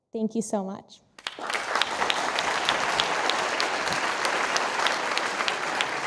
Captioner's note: audience applauding